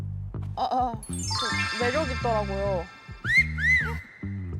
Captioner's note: shy voice